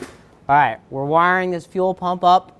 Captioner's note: none